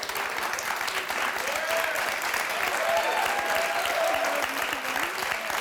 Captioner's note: audience cheering and clapping